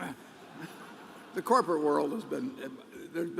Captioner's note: laughter